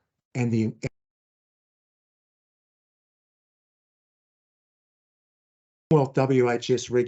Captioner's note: sound drops out briefly